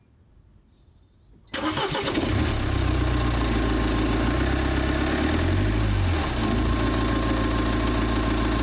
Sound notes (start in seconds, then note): 1.5 sound of engine starting and running